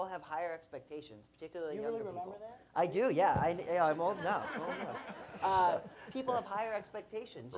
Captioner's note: laughter